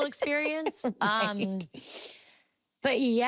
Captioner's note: laughing